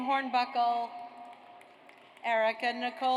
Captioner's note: audience applauds